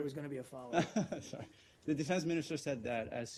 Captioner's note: laughter